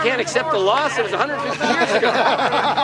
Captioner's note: people laughing